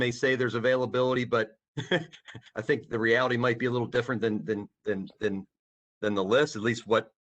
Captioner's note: laughter